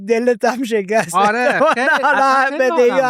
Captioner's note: laughs